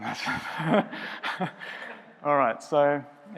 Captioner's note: laughs